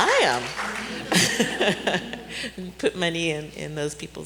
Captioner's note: laughter